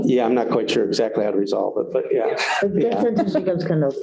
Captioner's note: laughter